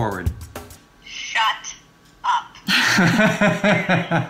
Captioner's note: woman on Phone; laughing